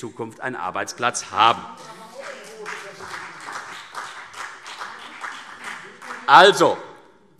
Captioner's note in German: Beifall CDU und BÜNDNIS 90/DIE GRÜNEN